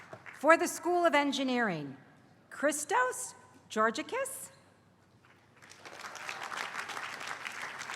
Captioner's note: applause; applause